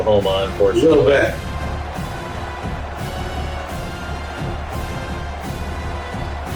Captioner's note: crowd Noises